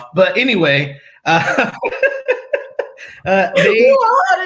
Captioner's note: laughter